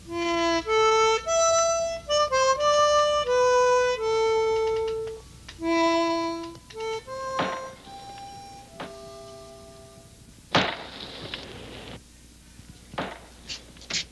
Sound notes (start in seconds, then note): 0.2 light harmonica music; 7.7 ax thudding